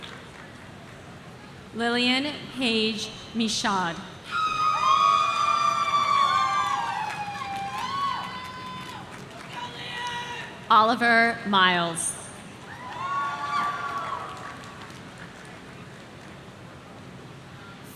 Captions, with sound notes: Lillian Paige Michan. (audience cheering) Oliver Miles.